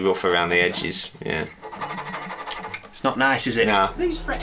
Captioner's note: more scratching sounds